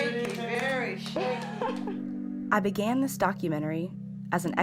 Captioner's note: chuckles